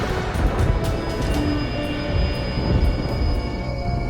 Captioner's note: lightning whirring